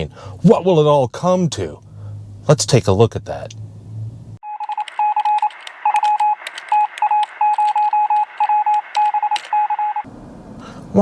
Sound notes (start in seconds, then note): 5.8 electronic beeping